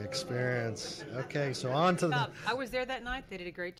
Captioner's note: groaning